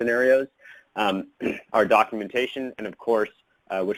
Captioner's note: clears throat